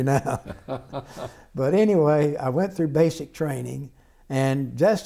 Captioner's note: laughter